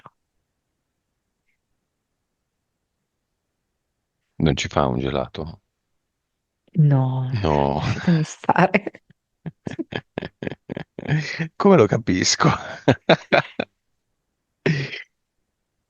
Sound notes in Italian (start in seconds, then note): 9.7 risate